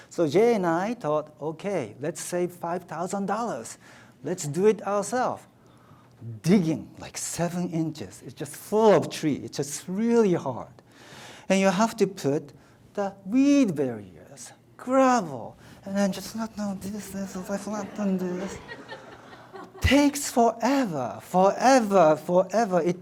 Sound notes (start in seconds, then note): 17.1 audience laughs